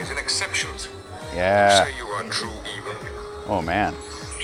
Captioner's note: Star Trek episode playing on phone